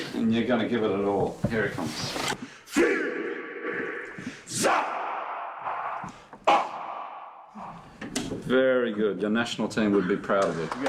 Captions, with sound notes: And you're gonna give it your all. Here it comes. [ALL CHANTING IN DWARVEN] Very good. Your national team would be proud of you.